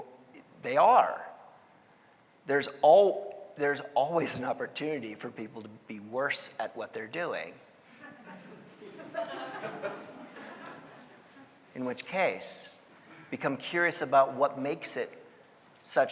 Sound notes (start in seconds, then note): 8.0 audience laughing